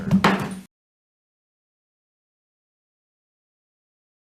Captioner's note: gavel taps